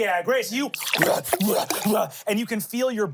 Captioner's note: snarfs